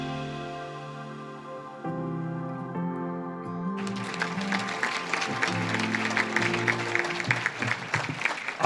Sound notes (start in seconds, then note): 0.2 gentle music; 3.7 audience claps